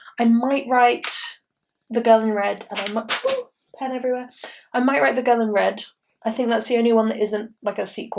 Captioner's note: drops pen